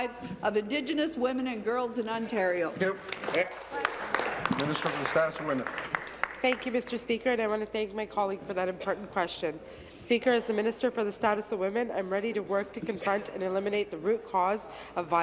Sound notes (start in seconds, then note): 7.0 applause